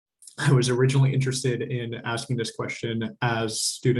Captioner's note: laughs